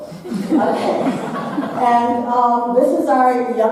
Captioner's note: audience laughing